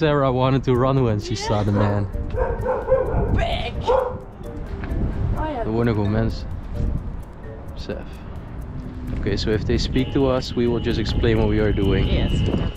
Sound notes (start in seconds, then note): 2.3 dog barking